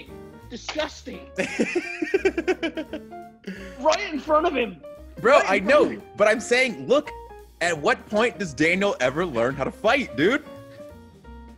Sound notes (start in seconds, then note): 1.4 laugh